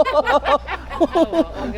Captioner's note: laughs